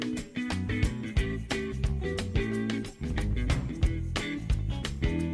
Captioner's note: gavel sounding